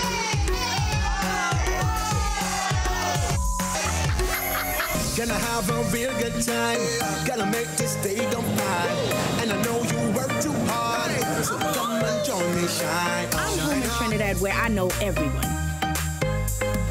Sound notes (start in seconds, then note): 3.3 beep; 3.6 laughing